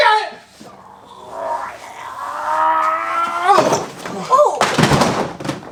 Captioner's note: groaning